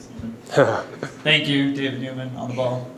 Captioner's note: chuckles